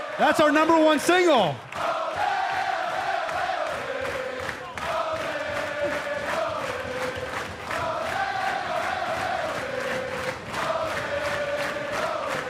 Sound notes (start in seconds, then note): 0.0 cheers and applause; 0.9 fans chanting